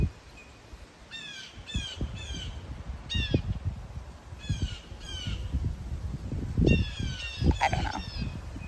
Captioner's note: bird cawing again; bird continues cawing